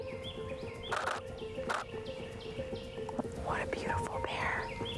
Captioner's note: camera clicking